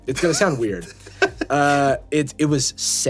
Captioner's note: laughing